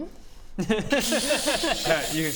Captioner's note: savage laughter